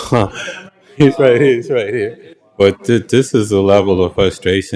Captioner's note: laughter